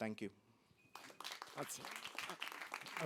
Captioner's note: applause